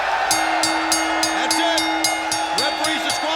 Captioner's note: bell rings